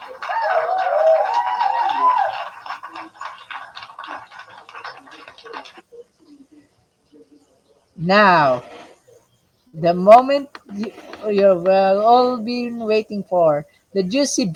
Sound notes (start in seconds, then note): 0.0 applause; 3.8 whispering